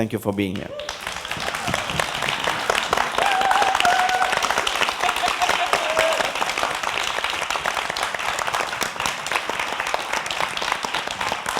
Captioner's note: applause